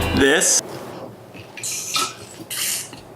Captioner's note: slurps